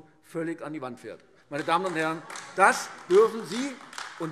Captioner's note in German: Beifall AfD - Zurufe CDU und BÜNDNIS 90/DIE GRÜNEN